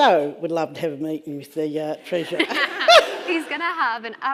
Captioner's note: laughs